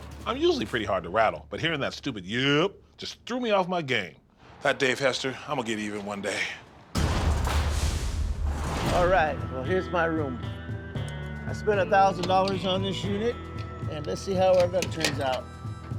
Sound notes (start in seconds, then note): 6.8 echoing slam; 10.5 dramatic music